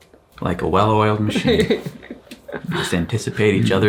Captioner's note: chuckles